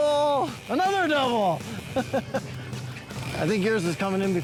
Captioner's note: chuckles